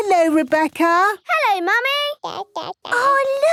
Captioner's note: babbling